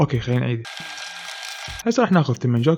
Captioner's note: rewinding